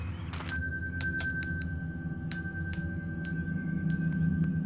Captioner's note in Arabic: زقزقة الطيور; دقات الجرس; موسيقى تلوح في الأفق